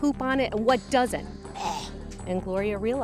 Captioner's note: gags